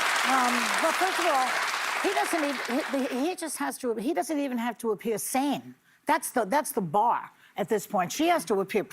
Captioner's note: applause